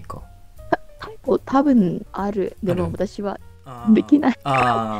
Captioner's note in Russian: японский